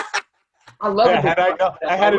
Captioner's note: laughing